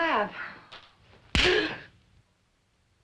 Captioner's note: gasps